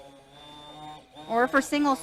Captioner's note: hand blender whirring